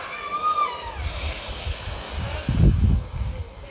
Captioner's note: sound of people sledding